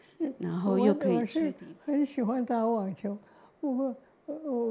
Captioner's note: Mandarin